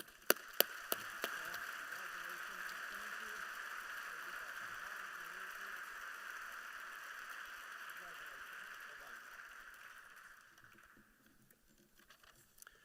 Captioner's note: applause